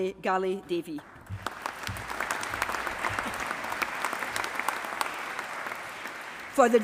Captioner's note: applause